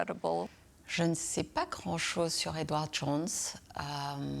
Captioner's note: French